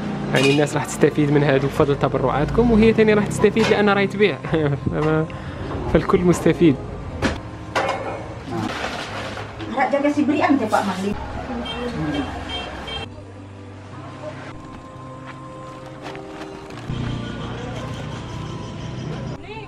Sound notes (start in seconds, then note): 7.1 speaking Indonesian; 11.6 horn sound